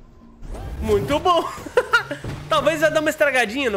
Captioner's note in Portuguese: risos